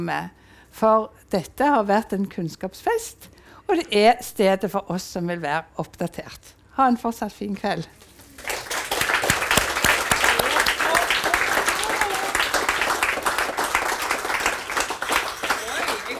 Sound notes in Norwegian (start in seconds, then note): 8.7 Applaus